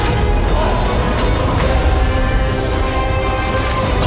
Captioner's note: monster roars; chains rattles; dramatic music continues